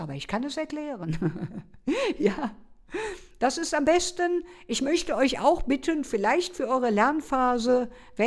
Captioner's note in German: gelächter